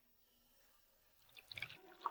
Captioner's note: sound of drinking